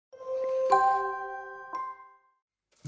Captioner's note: chiming